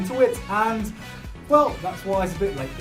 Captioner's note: inhales